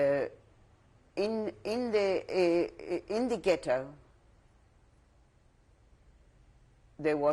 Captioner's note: pauses for 3 seconds; pauses for 3 seconds